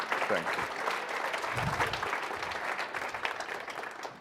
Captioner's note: applause